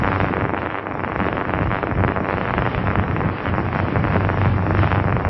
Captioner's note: thunder